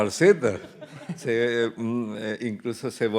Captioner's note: host and guests laughing; audience laughing; speaking in Spanish